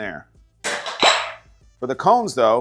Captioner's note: item clatters; item pops